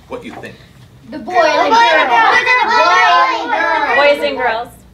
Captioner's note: students shouting out